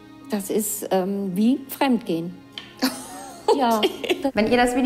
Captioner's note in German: lacht